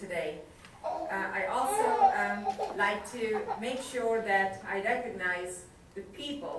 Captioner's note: baby crying